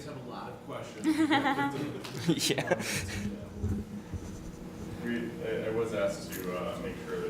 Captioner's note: laughing